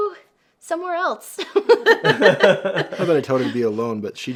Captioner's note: everyone laughs